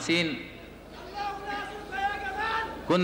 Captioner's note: screaming in the audience